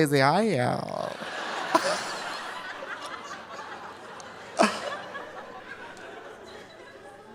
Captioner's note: audience laughing; Trixie laughing